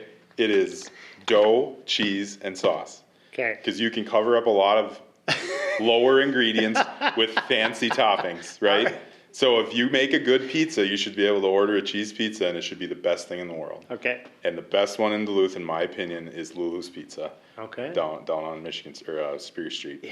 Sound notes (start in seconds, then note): 6.3 laughter